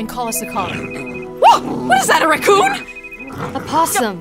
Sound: screams; growling

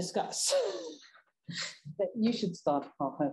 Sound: chuckles

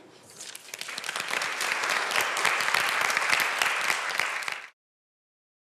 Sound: applause

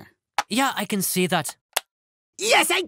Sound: click

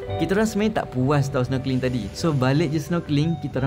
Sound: none

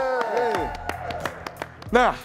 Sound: clapping

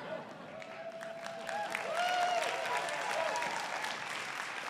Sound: applause

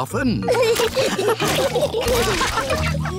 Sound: all laughing

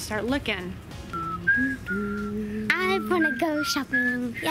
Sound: soft whistling

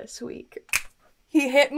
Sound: snaps

